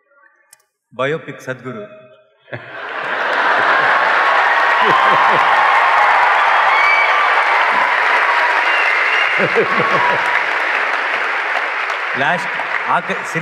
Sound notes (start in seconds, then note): 2.6 cheers/Applause; 9.4 Sadhguru laughs